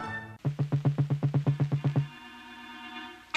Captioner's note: thumping